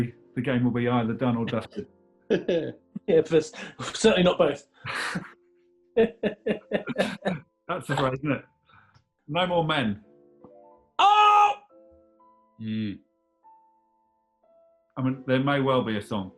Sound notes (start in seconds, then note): 2.3 chuckling; 6.0 laughing